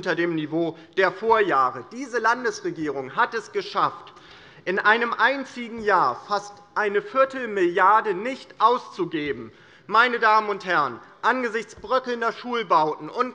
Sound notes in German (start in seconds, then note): none